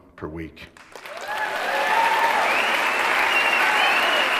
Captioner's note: applause